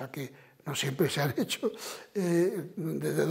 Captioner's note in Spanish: Ríe